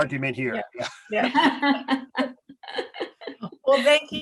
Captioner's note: laughs